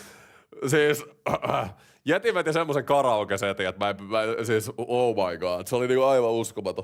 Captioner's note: ahem